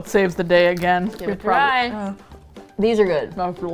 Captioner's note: groans